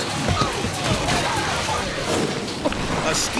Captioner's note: fisherman splashes; friend yells; screen swooshes